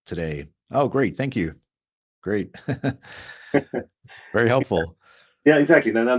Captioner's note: laughs